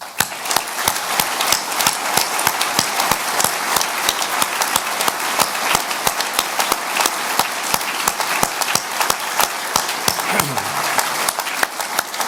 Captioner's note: audience applause